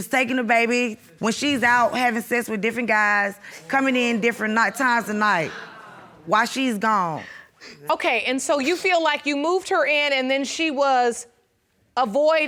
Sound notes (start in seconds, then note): 4.2 audience groans; 6.7 laughs